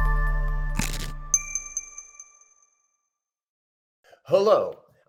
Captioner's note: upbeat music; logo crunching